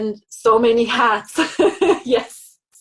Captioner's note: laughing lightly